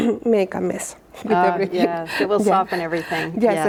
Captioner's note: laughs